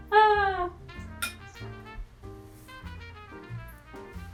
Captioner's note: spoon clinks